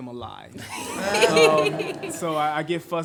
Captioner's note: everyone laughs